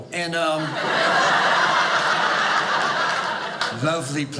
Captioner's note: audience laughing